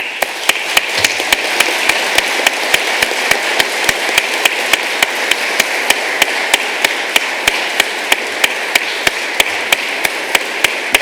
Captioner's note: applause